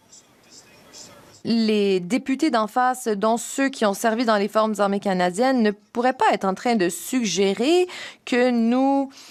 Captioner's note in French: voix de l'interprète